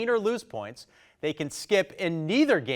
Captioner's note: none